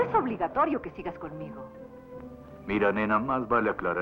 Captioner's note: Imitating Humphrey Bogart